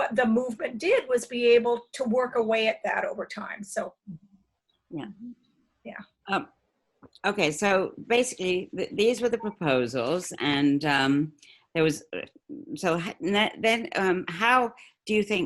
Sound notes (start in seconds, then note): none